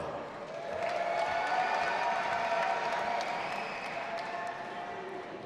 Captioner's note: audience applauding and cheering